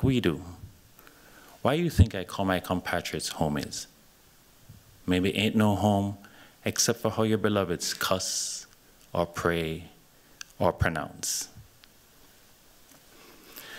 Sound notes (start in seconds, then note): none